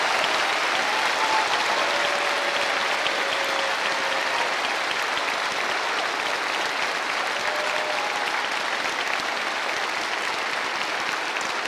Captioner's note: cheering and applause